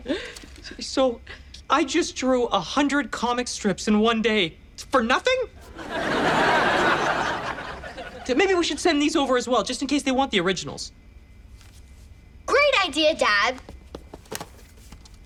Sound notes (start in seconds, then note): 5.6 audience laughs